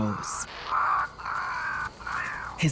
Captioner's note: birds squawking